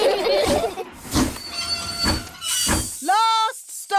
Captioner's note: laugh; train chugs